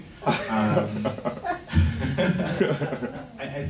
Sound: laughing

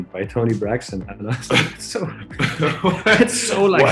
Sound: laughing

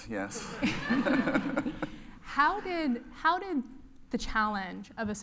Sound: laugh

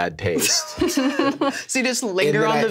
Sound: everyone laughs

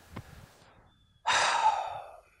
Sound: birds keep tweeting; sighs

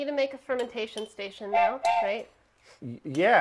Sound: train choo chooing

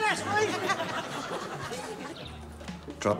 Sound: laughing

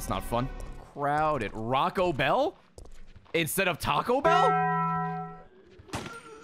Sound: Taco Bell bell

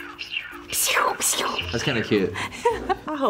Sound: imitates laser zapping

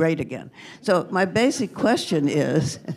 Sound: laughter

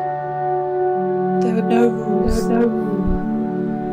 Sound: voices echoing

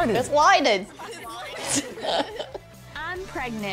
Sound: laughing

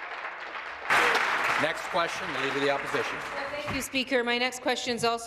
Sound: applause

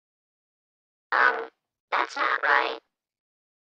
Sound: bit-crushed

